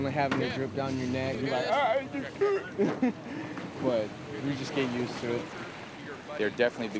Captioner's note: chuckles